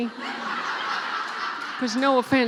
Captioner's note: laughing